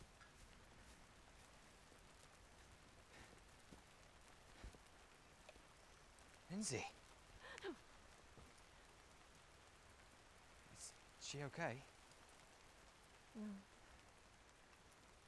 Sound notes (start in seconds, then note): 7.4 gasps